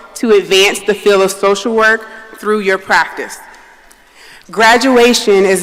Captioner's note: none